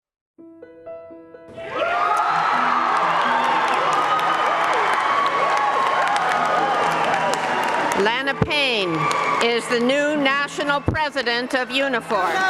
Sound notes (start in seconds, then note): 1.6 cheering